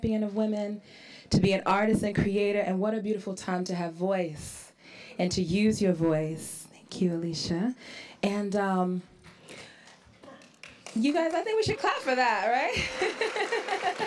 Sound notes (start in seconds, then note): 9.4 starts to applaud; 12.8 laughs